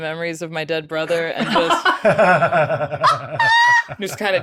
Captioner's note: group laughs